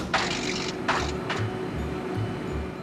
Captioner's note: heater rumbling